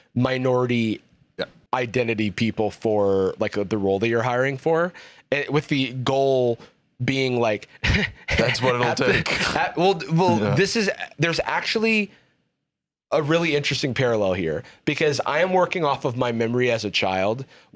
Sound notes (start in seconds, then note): 10.4 laughs